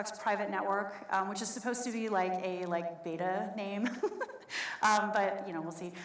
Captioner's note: laughs